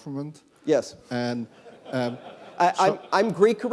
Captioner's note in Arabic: ضحك